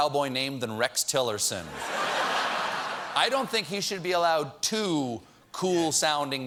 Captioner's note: laughter